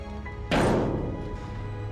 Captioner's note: bang